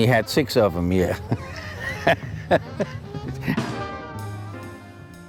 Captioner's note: laughs